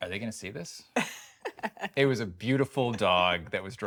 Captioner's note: laughing